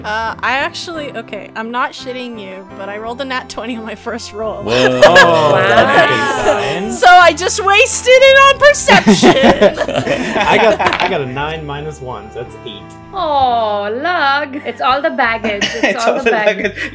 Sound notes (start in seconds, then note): 4.8 commotion; 8.9 laughter; 15.5 laughter